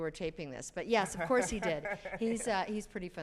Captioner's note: laughs